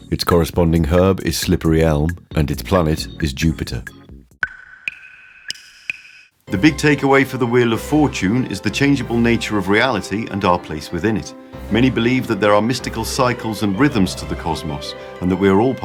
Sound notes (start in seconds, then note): 4.4 water dripping sound